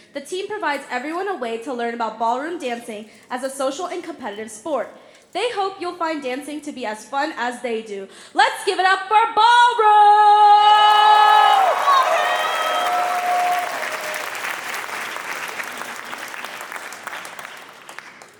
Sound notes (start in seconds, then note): 10.6 applause; 10.6 cheering; 12.2 applause; 13.1 cheering; 14.4 applause